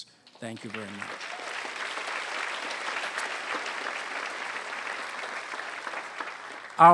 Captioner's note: applause